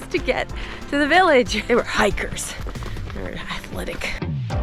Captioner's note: disgruntled tone